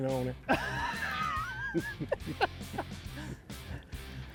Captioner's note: laughs